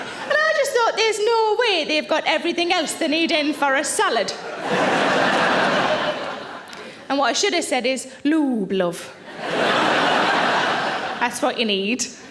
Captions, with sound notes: And I just thought there's no way they've got everything else they're needing for a salad. (audience laughing) And what I should have said is, lube, love. (audience laughing) That's what you need.